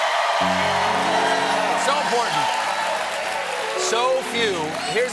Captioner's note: cheers and applause